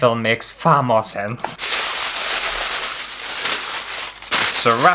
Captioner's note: aluminum Foil Rustling